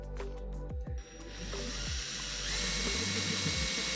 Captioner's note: drill whirring